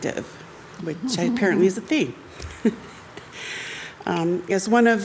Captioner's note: chuckles